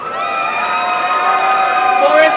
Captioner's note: applause and cheering